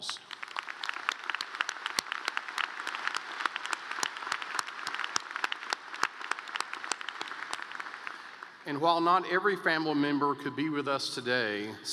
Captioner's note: applause